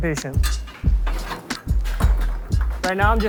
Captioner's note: poker clattering